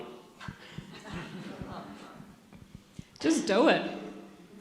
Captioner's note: audience laughs